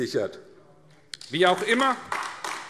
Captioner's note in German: Beifall AfD